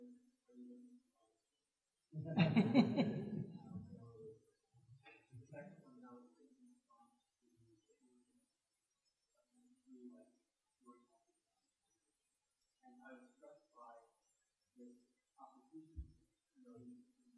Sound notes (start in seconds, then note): 2.2 laughter